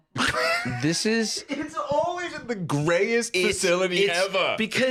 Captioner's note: laughing